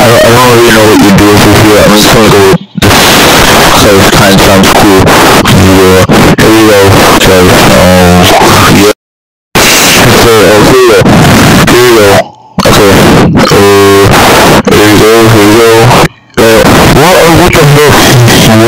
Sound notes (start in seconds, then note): 8.7 mic dies; 12.5 dial-up modem